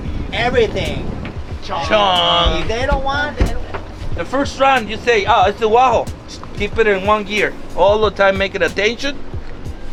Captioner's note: foreign language 00:06:38